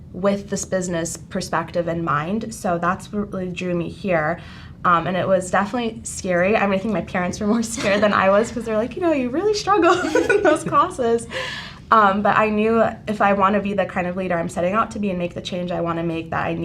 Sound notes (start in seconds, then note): 9.8 laughing